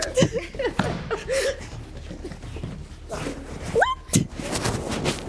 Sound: chuckles

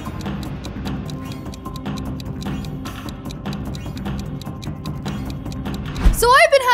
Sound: clock ticks; dramatic upbeat music

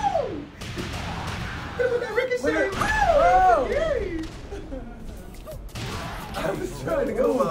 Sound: laugh

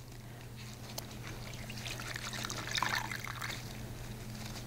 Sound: water splashing

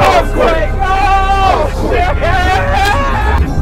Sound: screaming

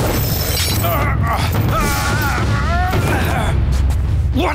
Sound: clanking; grunting

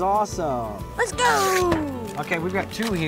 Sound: paper ripping

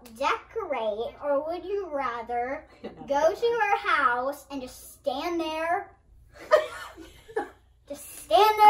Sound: laugh incredulously

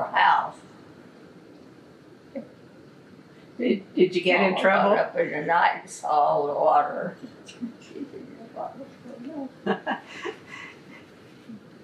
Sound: laughs

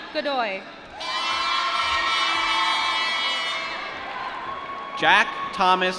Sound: cheering

